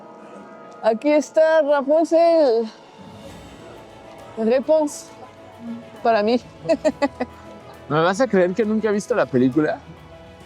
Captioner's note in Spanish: risas